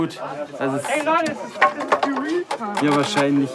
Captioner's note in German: Stimmengewirr im Hintergrund